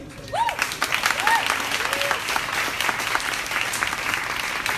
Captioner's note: crowd applauding